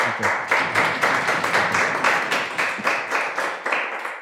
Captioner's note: clapping